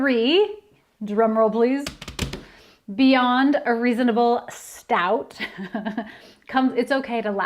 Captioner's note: sound of fingers drumming on desk; laughter